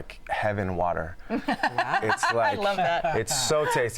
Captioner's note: laughs